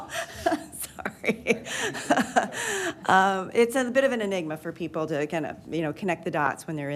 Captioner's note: laughter